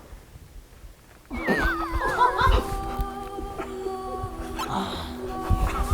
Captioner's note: hororororororo